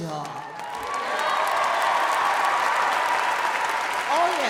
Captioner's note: audience applauding